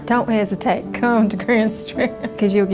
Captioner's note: chuckling